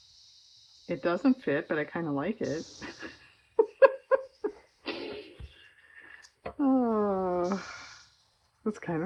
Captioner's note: laughs